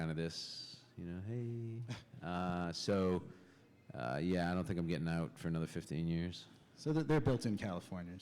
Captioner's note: chuckle